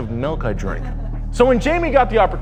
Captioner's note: female laugh off screen